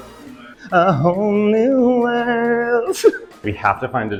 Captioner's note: laughing